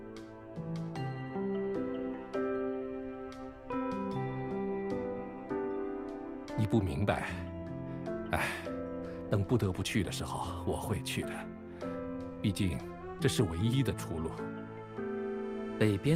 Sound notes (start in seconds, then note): 8.4 sigh